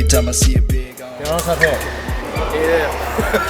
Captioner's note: in spanish